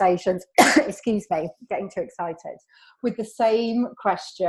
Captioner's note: coughs